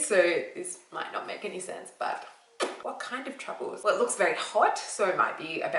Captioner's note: makes popping sound with lips